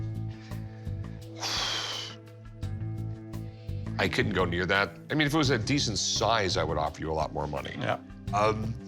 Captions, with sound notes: [exhales] I couldn't go near that. If it was a decent size, I'd offer you more. -Yeah. -Um...